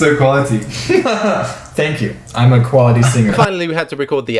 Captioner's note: laughs